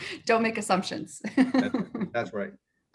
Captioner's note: laughs